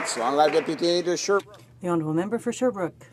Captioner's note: applause